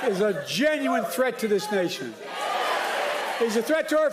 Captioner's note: chanting yes you can